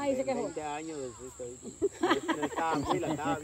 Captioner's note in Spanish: risas